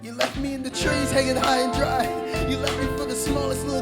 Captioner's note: none